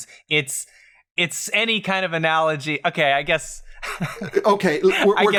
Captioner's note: laughs